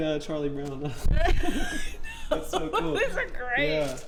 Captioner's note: laughing